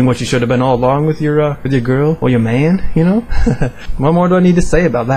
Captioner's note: haha